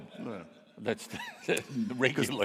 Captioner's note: audience laughing; laughs